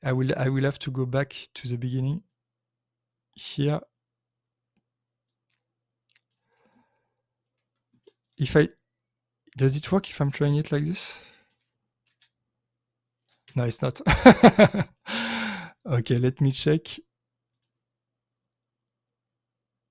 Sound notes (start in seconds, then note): 14.0 laughs